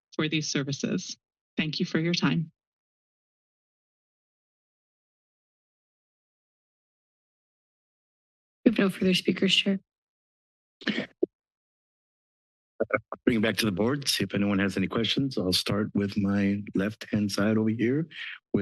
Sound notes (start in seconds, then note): 2.7 silence; 10.8 microphone noise